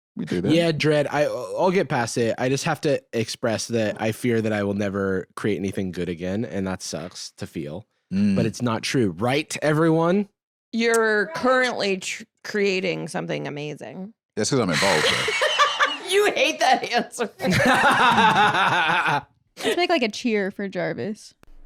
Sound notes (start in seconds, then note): 14.7 sighs; 17.4 laughing; 17.4 laughs